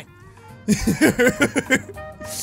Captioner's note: laughs